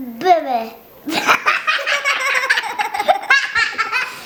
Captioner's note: wild laughter